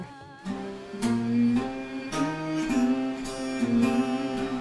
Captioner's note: humming